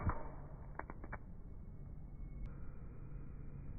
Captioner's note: lighter flick